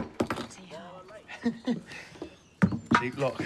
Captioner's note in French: rires